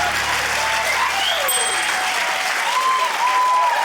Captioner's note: cheering, applause; ding!